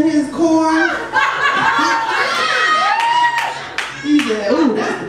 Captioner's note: audience laughs